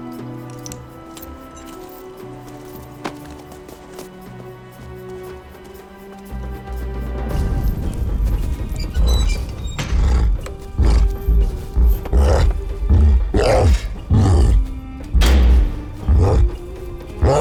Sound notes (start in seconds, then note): 9.8 cyclops grunting